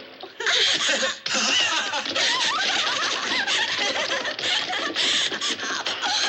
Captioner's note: laughing